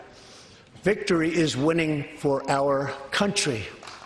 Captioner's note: applause